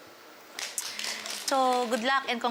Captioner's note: clapping